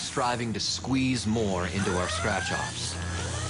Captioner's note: sirens go off